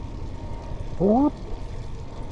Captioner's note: mimic police siren